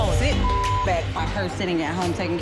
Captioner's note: beep